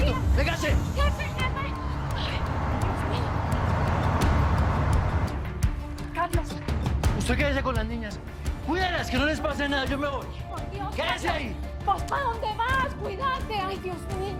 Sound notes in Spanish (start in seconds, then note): 0.0 Ruido de los vehículos